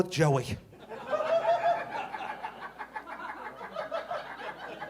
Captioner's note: audience laughing